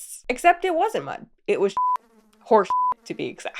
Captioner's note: beep